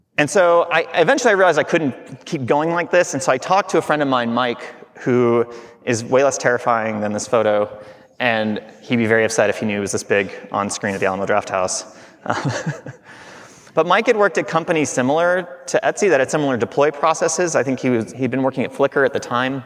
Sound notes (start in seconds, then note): 12.2 laughing